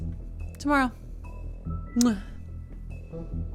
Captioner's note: kiss